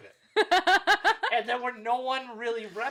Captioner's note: laughing